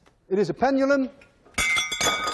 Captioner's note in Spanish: tañidos de objetos